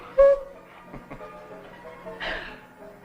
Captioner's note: Gil laughs